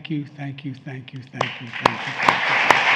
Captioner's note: applause